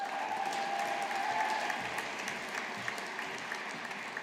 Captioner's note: audience applauding